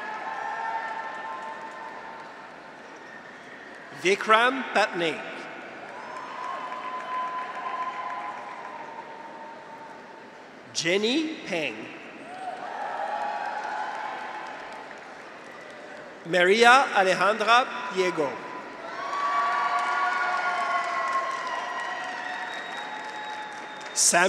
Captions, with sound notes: (graduates cheer) (audience applauds) Vikram Patnaik. (graduates cheer) (audience applauds) Jenny Peng. (graduates cheer) (audience applauds) Maria Alejandra Pliego. (graduates cheer) (audience applauds)